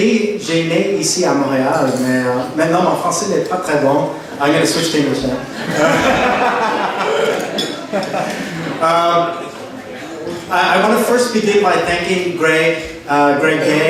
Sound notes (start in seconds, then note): 0.1 speaking in French; 5.4 laughter